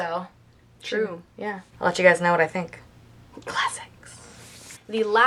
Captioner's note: whispers